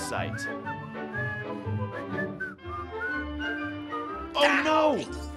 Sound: whistling

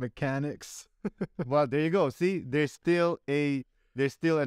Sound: laughter

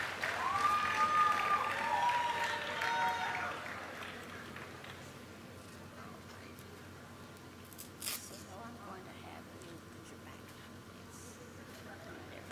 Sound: cheers and applause; applause; laughter

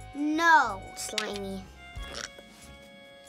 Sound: retches

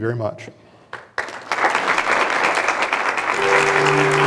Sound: clapping

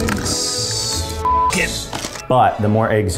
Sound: beep

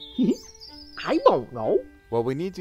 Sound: laughs

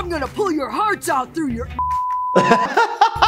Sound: beep; laughs

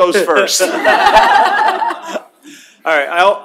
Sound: laughter

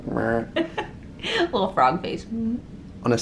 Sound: croaks; laughter

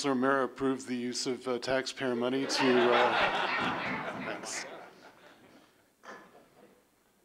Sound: laughter

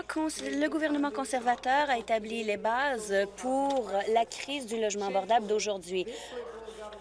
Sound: none

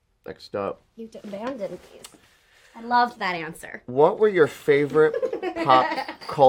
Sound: she laughs

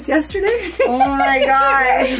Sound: laughs

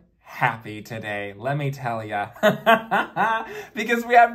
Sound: laughs

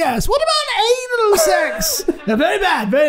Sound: Charlie High Pitched; all laughing

